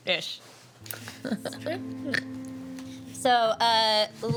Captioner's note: laughing